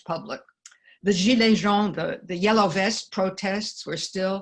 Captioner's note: french